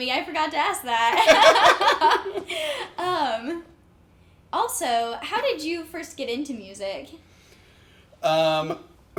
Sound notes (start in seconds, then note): 1.1 laugh